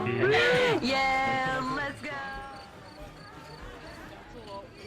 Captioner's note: cheering; laughing; cheering